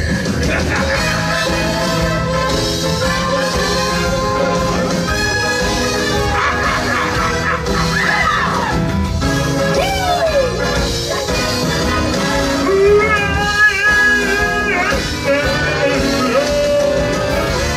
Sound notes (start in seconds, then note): 0.1 laughs; 5.7 Oogie Boogie Laughs and the sisters scream in horror